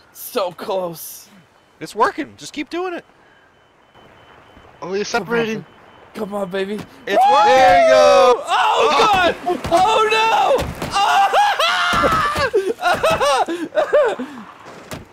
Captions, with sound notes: So close! It's working, just keep keep doing it! Oh, you're separating! Come on, baby! It's working! There you go! Oh god! Oh-no! *panicked screaming*